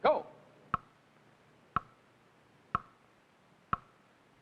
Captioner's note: clock ticking